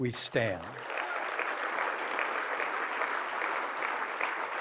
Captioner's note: applause